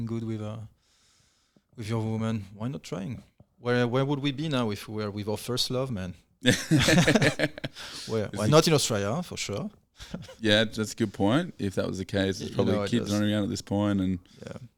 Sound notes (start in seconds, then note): 6.5 laughing